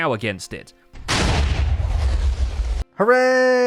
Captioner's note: chain of explosions